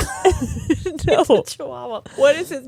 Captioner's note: both laughing